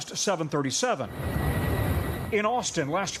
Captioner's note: airplane engine humming